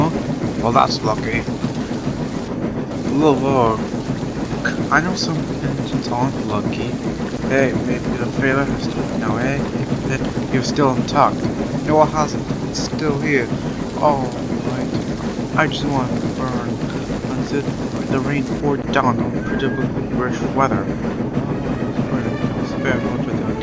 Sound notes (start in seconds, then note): 9.7 chuckles